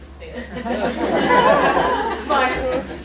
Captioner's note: laughter